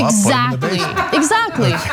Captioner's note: laugh